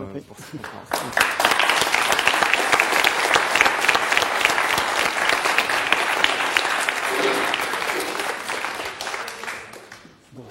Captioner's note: applause